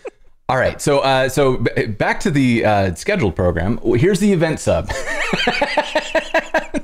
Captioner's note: laughter